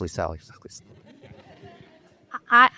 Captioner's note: laughter